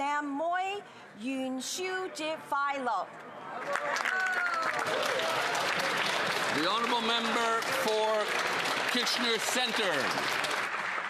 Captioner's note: speaking alternate language